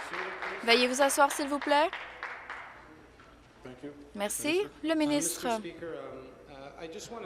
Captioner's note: applause